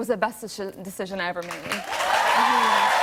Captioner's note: cheers and applause